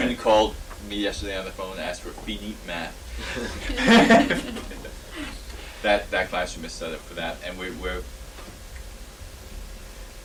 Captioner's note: laughter